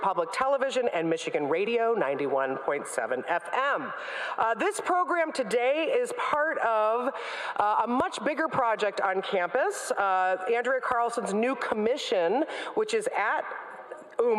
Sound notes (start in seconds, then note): none